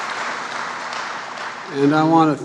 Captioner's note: applause